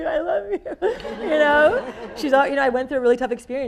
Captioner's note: people laughing